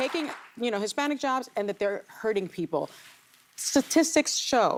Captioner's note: applause